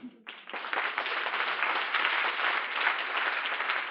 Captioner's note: applause